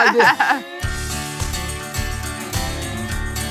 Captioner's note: laughs; country music